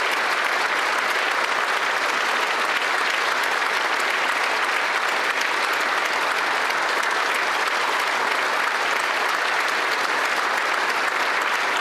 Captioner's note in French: applaudissements